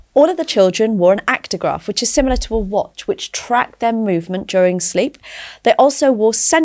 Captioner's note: none